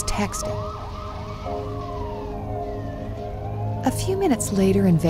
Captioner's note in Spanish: sirenas a todo volumen